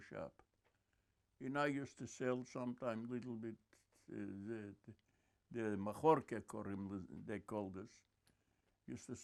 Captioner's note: non-english